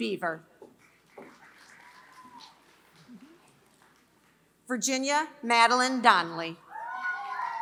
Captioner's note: applause; applause